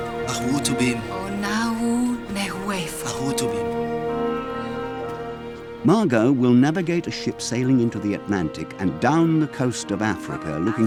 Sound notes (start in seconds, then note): 0.3 Mago speaking in foreign language; 1.4 Biricrit speaking in foreign language; 3.3 Mago speaking in foreign language